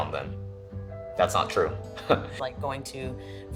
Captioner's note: chuckles